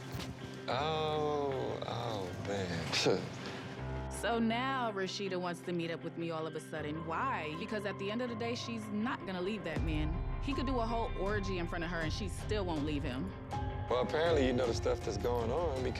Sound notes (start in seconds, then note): 2.8 scoffs